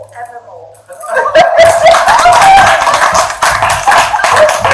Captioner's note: audience cheering